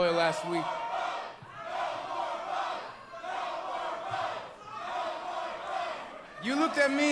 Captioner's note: crowd chanting